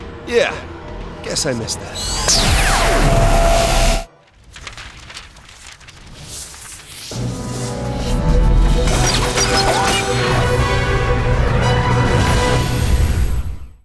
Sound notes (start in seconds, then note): 2.5 zapping